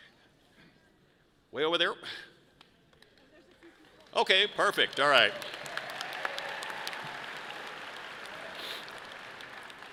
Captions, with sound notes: Way over there. Okay, perfect, all right. (audience applauding)